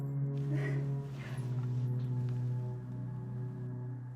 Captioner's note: Lock cries